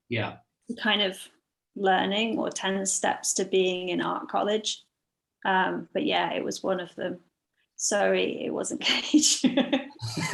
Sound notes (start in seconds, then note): 10.0 laugh